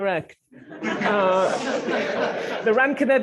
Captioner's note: laughter